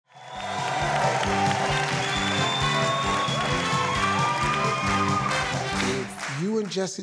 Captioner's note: audience applauding; lively orchestral music